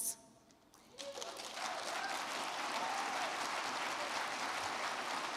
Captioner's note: crowd clapping